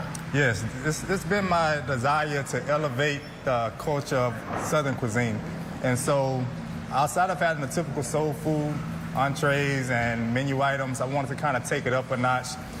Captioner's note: talking fast